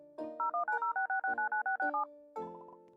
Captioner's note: emergency Phone Sounds